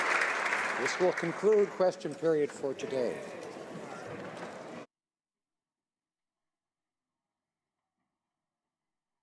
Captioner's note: applause